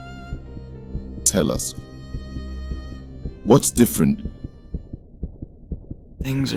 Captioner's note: fast beating